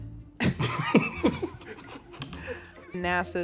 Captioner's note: laughing